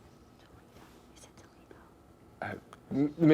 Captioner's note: whispering